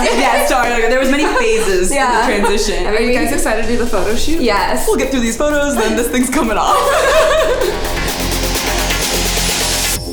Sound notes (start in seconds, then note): 7.0 all laugh